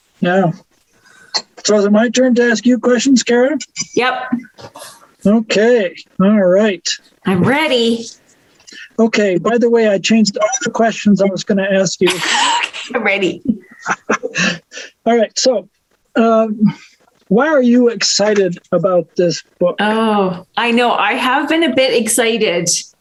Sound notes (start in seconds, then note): 12.0 laughs